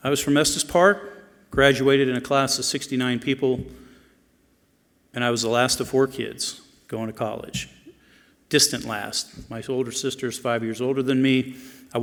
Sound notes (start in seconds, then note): none